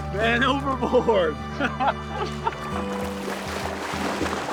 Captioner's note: Dev laughs